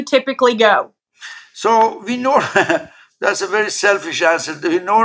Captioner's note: laugh